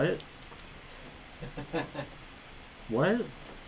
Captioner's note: laughs